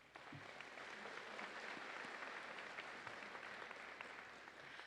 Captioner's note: audience applauding